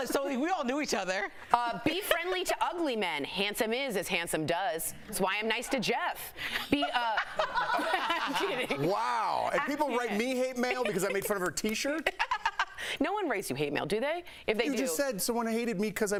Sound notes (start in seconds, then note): 10.6 laughter